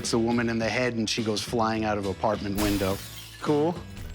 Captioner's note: glass breaking